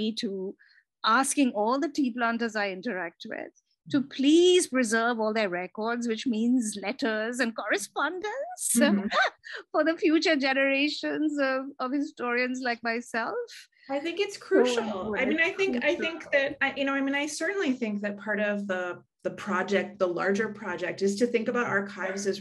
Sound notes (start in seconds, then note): 9.0 laughs